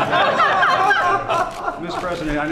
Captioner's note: laughter